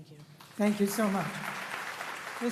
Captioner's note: applause